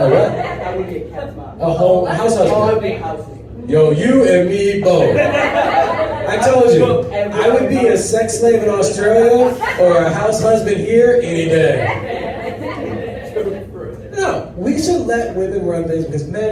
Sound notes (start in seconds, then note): 11.2 laughter